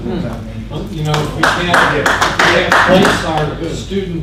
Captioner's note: audience applauds